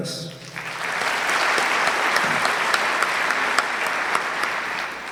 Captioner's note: audience clapping